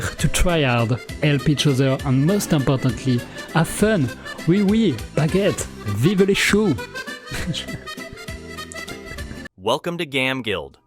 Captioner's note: laugh